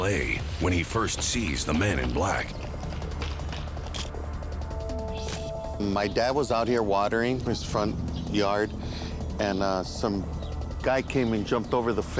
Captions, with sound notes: WHEN HE FIRST SEES THE MAN IN BLACK. (camera shutter click) MY DAD WAS OUT HERE WATERING HIS FRONT YARD AND SOME GUY CAME AND JUMPED OVER THE FENCE